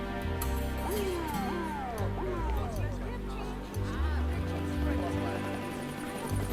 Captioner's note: overlapping chattering; siren wails; helicopter wings whirring